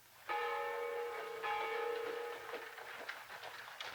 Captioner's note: bell tolls